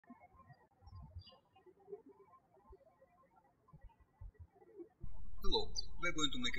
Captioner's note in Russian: птички щебечут